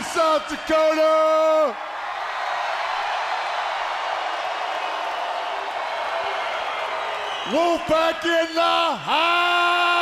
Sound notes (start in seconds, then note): 3.4 crowd cheering